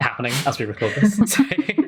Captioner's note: laughing